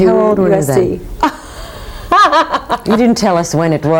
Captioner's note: laughing